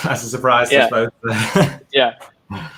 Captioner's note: laughing